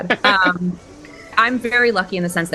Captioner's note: laughter